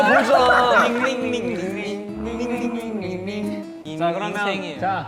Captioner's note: cheers